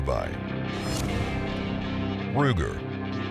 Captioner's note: whooshing